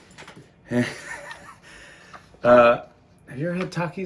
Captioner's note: chuckles